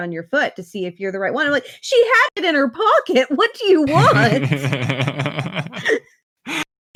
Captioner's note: laughs